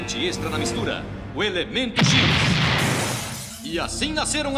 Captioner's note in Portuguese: explosão